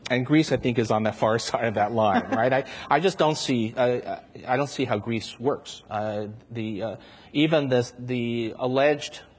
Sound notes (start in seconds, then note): 2.0 chuckles